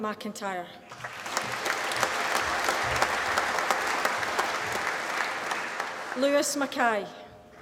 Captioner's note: applause